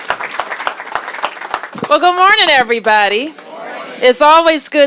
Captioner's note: applause